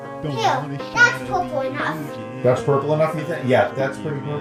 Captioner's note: chattering indistinctly